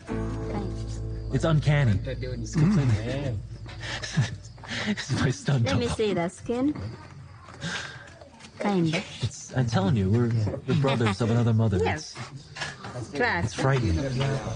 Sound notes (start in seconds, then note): 2.5 chuckles